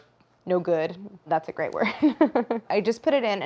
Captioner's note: laughs